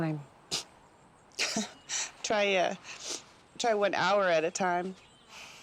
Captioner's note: laughs